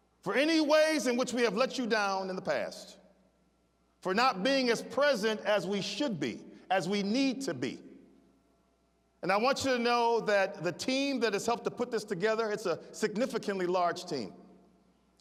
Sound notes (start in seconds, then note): none